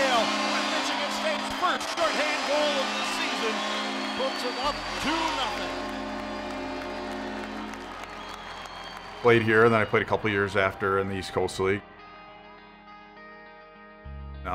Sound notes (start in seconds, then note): 3.6 audience cheers; 5.3 horn blows; 6.3 audience claps and cheers; 11.9 gentle uplifting music